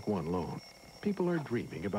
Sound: alarm clock goes off

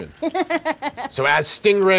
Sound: laughing

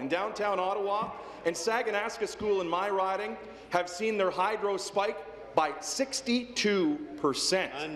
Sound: speaking in french

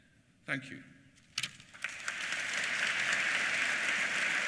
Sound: applause

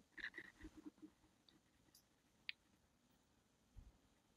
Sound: mouse clicking

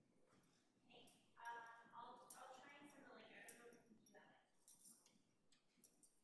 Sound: faintly speaking

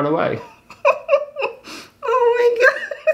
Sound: interviewee laughs

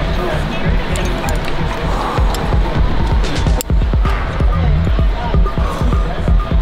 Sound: people chattering in foreign language

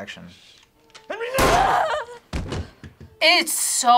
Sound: gun fires

